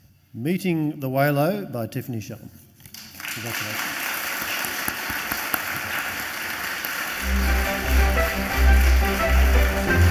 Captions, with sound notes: "Meeting the Waylo," by Tiffany Shellam. Congratulations. (audience applauds) (bright music)